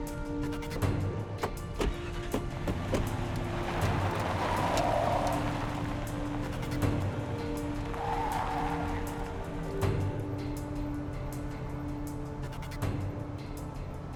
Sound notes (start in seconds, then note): 7.8 tire squeal